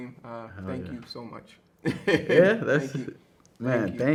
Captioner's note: laughs